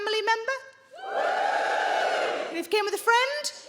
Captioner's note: crowd members cheer